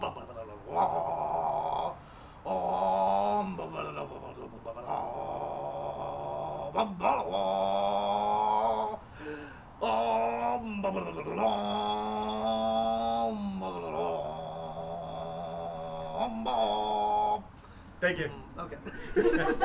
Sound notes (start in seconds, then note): 0.0 human engine noises; 7.2 human engine shifts gears; 11.2 human burble continues like a boss; 17.6 finally breathes; 18.7 crew cracks up laughing